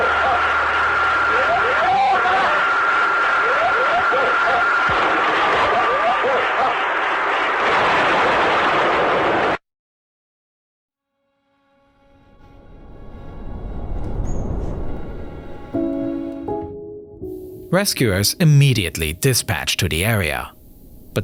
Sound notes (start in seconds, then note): 8.3 plane crashing; 11.9 pensive music